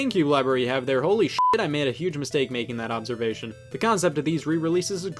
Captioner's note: beep